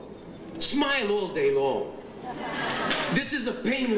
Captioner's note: audience laughs